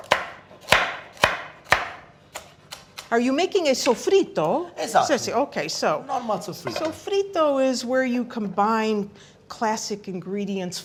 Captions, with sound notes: Are you making a sofrito? [speaking italian] OK, sofrito is where you combine classic ingredients,